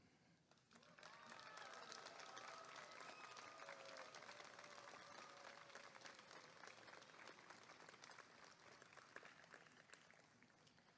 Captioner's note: applause and cheering